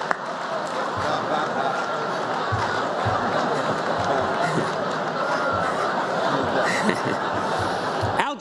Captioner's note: laughter